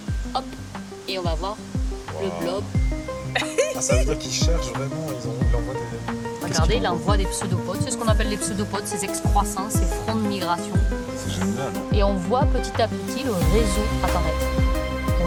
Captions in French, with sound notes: Hop ! Et on va voir le blob. Waouh [rires émerveillés] Ca veut dire qu'il cherche vraiment les endroits des graines d'avoine. Regardez, il envoie des pseudopodes . C'est ce qu'on appelle les pseudopodes . Ces excroissances, ces fronts de migration. C'est génial. Et on voit petit à petit le réseau apparaître.